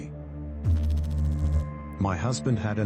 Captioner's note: electrical noise